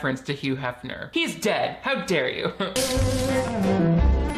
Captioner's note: laughs; whimsical music